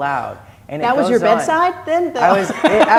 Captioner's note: laughs